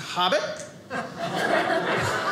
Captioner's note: audience laughing